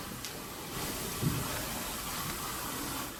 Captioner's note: knock